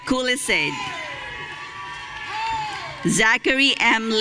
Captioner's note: audience cheering